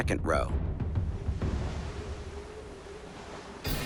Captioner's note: waves crashing faintly